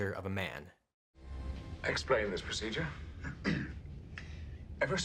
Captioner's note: clears throat